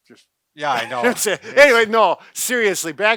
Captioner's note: laughs